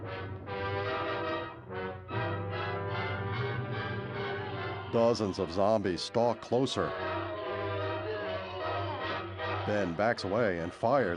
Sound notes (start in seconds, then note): 4.2 groaning